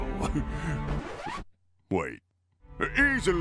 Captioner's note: chuckle; record scratch